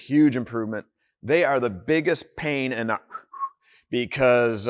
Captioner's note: whistles